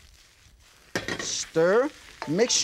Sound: ingredients sizzling; pan rattles

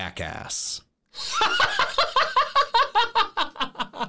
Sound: laughing

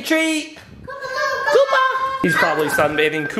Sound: kids yelling

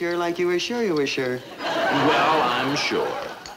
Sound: audience laughing

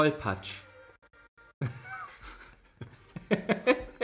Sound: laughs

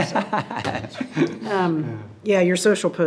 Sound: laughing

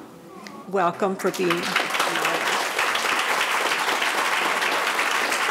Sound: audience applauding

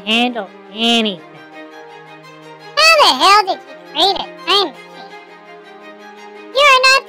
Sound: confident

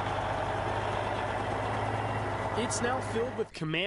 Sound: truck driving

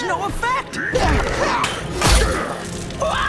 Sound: grunting; screaming

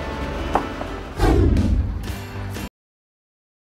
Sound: whooshing sound

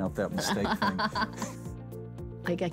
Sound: laughs

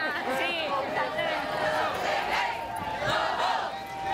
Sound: chanting and talking

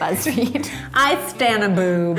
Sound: laughing

